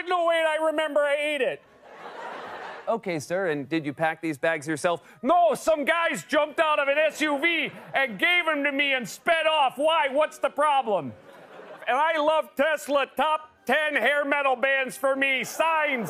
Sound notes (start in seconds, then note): 1.8 laughter; 3.0 normal voice